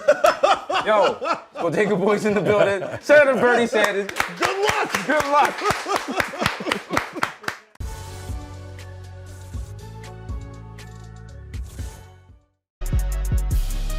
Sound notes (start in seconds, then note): 0.0 laughter; 5.4 laughter; 5.6 applause